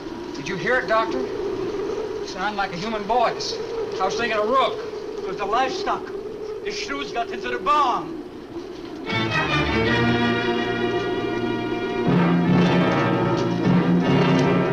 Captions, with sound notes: Did you hear it, Doctor? Sounded like a human voice. I was thinking of Rook. - It was the livestock. The shrews got into the barn! (ominous orchestral music) (muffled wind howls)